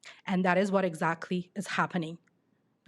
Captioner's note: none